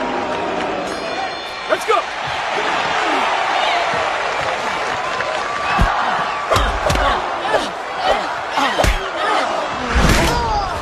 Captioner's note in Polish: Aplauz